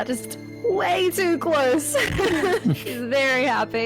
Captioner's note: laughs